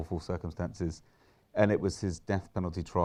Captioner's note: inhales